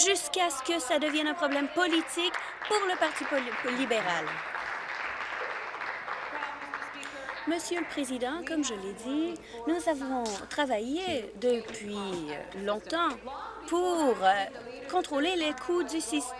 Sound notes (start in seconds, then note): 5.7 applause